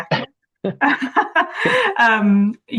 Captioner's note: laughs